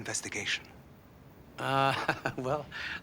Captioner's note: laughing